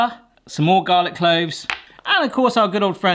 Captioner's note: bowl clatters